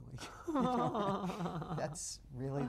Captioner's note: laughs